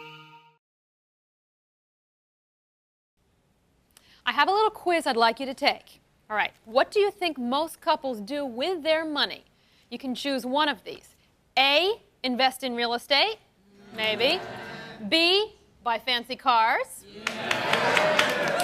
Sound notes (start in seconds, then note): 13.7 audience groans; 17.1 audience claps